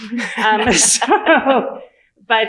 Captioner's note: laughter